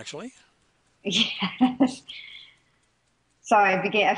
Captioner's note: laughs